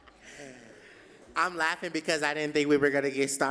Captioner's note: laughs